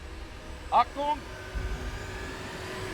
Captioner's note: in German